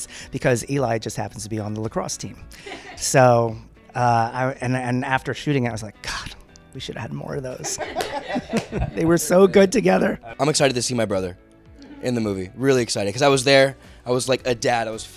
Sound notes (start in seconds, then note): 7.6 laughter